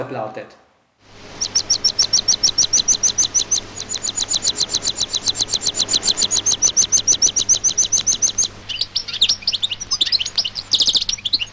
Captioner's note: a bird sings